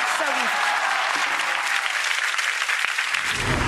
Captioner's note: clapping